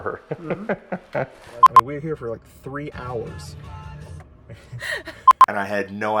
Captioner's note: radio turns on